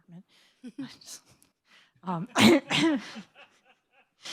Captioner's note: laughs